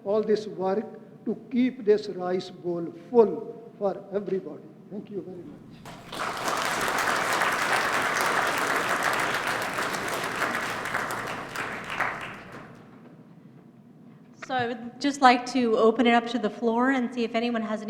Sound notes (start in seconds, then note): 5.5 applause